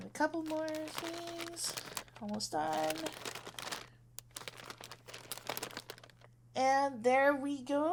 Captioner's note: rustling paper, moving flowers, etc